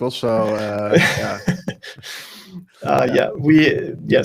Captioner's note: laughs